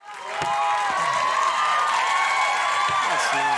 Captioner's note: cheering, clapping